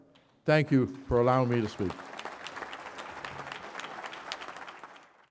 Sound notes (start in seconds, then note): 2.3 applause